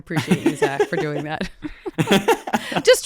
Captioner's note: both laughing